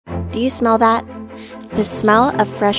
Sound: sniff

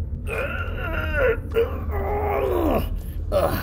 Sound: grunting

